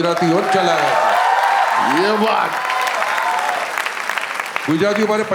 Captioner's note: crowd applauding